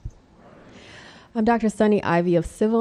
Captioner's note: crowd